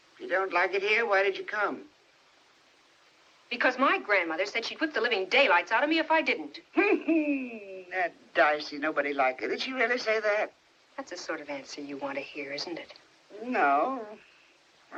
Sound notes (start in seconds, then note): 6.7 chuckles